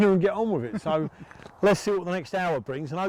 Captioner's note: chuckling